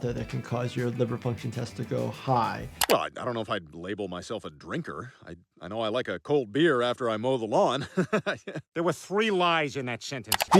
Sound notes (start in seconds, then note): 7.8 laughs